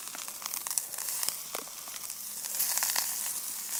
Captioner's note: sizzling sounds